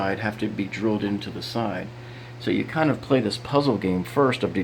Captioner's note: none